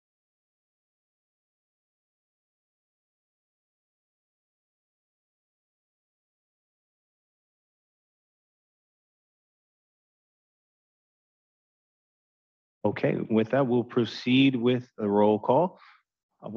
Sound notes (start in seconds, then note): 0.6 silence